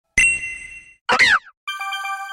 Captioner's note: Seaglet's Cry